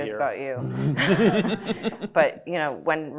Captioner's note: everybody laughing